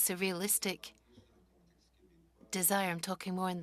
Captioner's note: speaking French